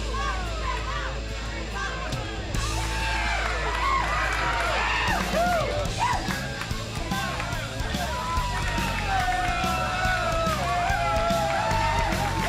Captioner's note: crowd cheering